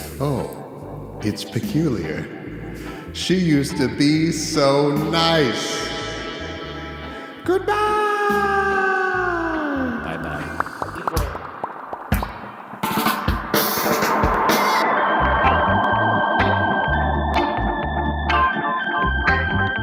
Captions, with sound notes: Oh, it's peculiar. She used to be so nice. Goodbye. Bye bye. (audience applauding) (upbeat music)